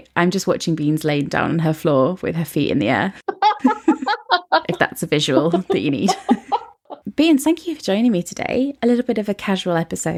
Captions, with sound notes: I'm just watching Beans laying down her floor with her feet in the air. (both laughing) If that's a visual that you need. (laughing) Beans, thank you for joining me today. A little bit of a casual episode